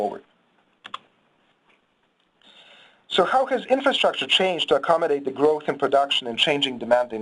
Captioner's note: mouse clicks